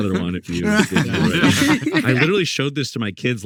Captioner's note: group laughing